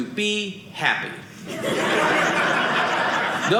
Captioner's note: audience laughing